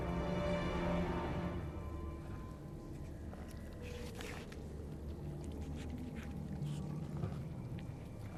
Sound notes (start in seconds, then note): 3.4 slurping, tearing flesh